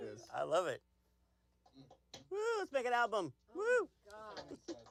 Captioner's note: laughter